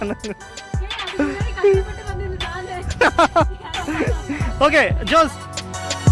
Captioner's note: laughs